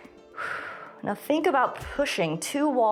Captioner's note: exhales